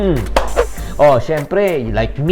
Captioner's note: clap; swoosh